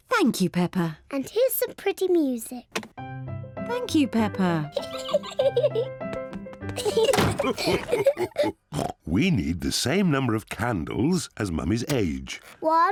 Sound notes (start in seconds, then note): 3.0 lively music plays; 5.1 giggles; 6.8 all laugh; 8.7 oinks